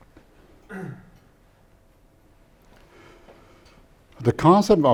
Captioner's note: audience member coughs